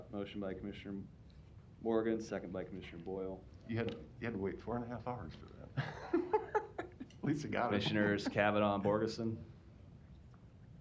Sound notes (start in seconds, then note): 5.7 laughter